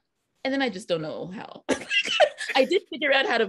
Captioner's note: all laughing